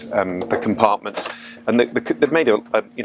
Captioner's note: handle clicks